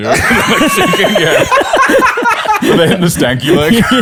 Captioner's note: laughter